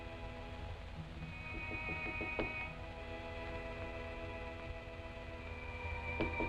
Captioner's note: knocking on door